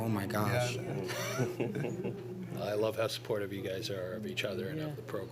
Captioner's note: both chuckle